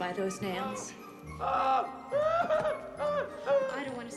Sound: whimpering

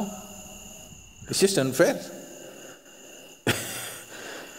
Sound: laughs

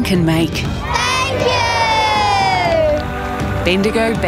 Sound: crowd

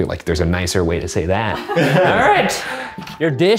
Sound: laughing in background

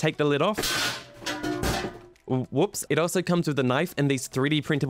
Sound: glass lid falling to the ground

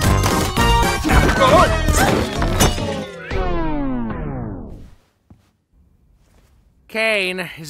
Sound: circus members groaning; cheerful music slows

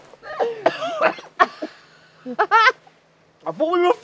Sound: laughing; coughing

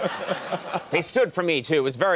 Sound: Chis and audience laugh

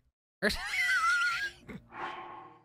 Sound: laughter

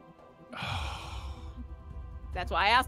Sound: scoffs

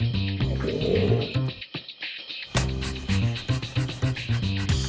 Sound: orangutan roars

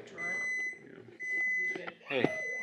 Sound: microwave beeping

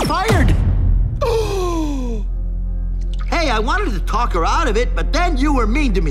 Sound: gasps

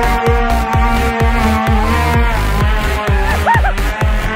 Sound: people screaming; upbeat techno music

